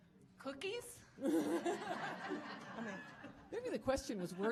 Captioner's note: audience laughing